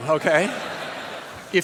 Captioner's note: laughter